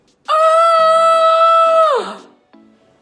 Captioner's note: yells